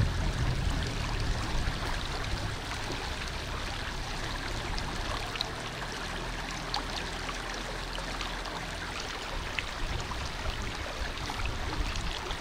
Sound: sound of the river

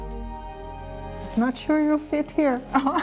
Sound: laughs

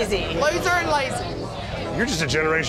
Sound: beeping

